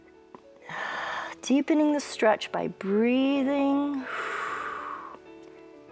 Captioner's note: exhales